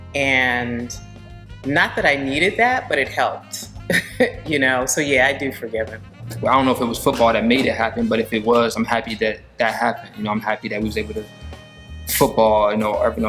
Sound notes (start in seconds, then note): 3.8 chuckling